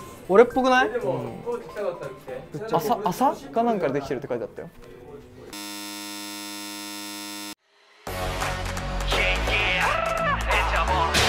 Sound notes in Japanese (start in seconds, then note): 5.5 開演ブザーの音